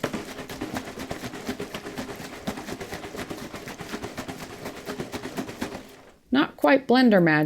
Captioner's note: shaking of coffee in bottle